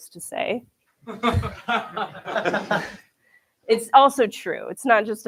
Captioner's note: laughter